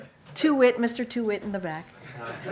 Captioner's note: laughter